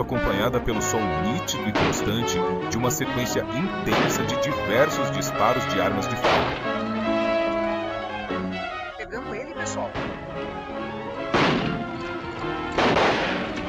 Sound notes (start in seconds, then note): 0.0 tense music; 1.7 gunshots